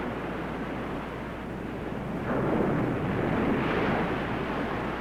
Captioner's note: waves crashing